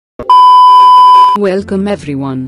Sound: disclaimer Beep

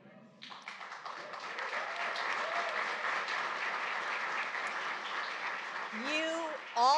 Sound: applause

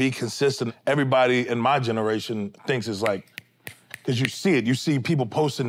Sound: snapping fingers

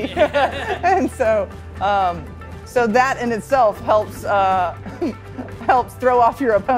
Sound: laughing; chuckling

